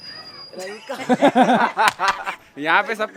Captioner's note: light chuckles